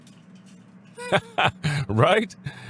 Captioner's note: laughs